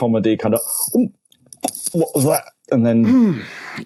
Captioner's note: imitates choking